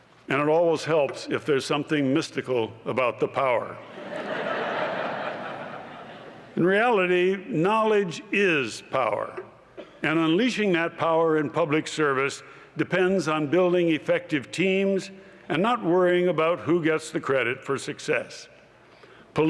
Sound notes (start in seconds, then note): 3.8 laughter